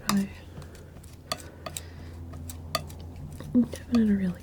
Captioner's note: scratching